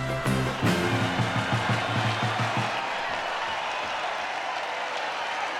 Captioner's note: crowd cheering and applauding